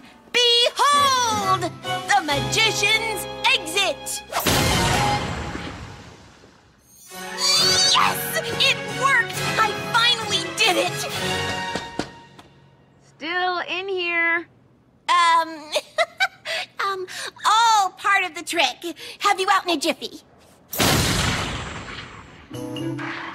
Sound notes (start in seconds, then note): 11.5 knocks on door; 15.7 laughs